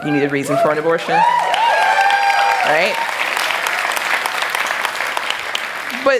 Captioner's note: applause